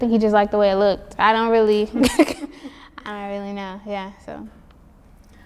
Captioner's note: laughs